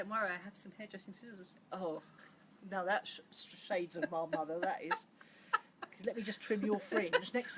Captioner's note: laughs